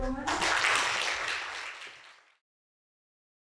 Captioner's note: applause